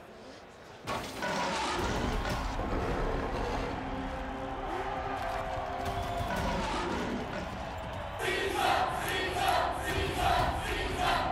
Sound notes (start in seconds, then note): 1.1 roaring; 7.5 crowd chanting